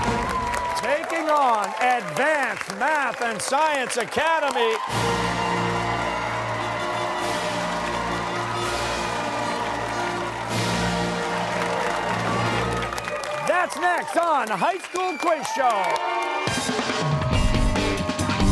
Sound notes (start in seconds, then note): 4.9 applause